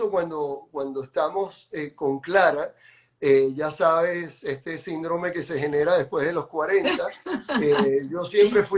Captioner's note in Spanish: risas